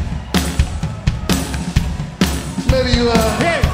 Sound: audience cheering

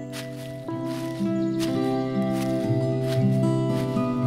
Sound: trekking sounds

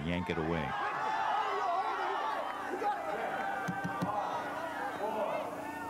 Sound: cheering

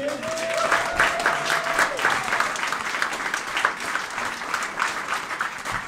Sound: applauding and cheering

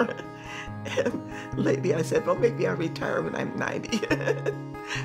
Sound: chuckles

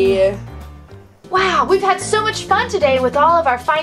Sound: voiceover

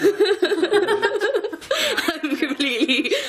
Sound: laughing

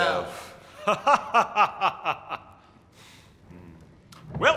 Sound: laughing

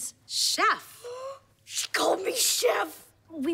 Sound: gasping

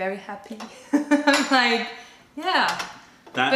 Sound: laughter

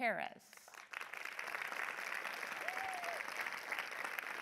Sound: audience applause

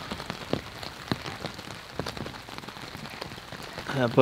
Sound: rain pouring

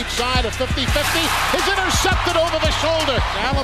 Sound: crowd cheering

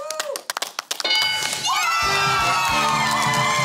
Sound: cheering and applause

